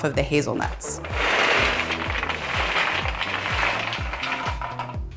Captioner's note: nuts rattle